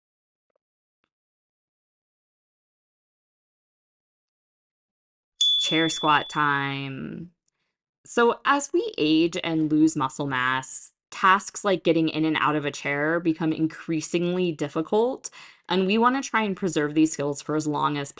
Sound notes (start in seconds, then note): 5.4 chime